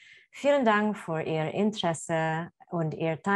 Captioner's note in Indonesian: Bahasa Jerman